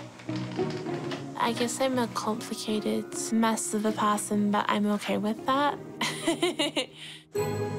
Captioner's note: chuckles